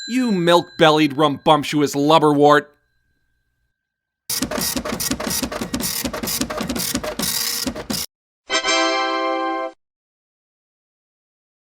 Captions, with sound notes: You milk-bellied rumbumptuous lubberwort. (machine clanging) (triumphant music)